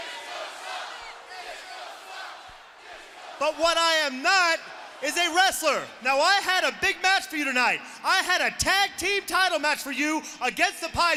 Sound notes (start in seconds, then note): 3.0 crowd chatter